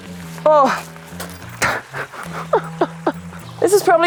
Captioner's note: laughing